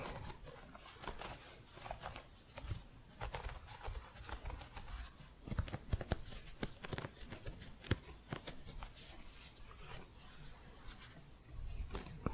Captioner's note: crunchy scratching